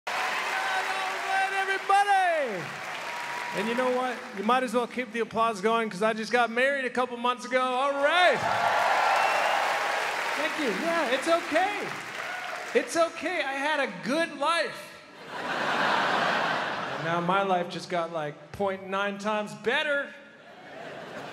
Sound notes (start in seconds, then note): 0.0 applause; 7.9 crowd cheers; 15.1 crowd laughs